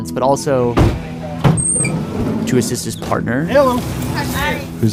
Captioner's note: doors slamming